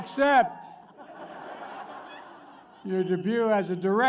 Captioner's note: laughter